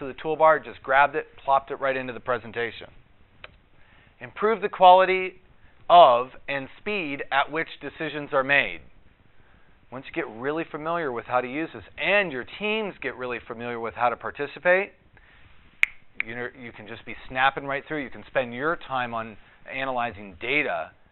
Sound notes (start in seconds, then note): 15.8 snaps fingers